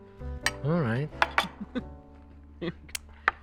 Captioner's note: chuckles